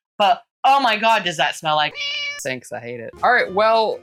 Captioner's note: meow